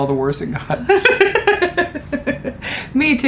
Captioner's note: laughs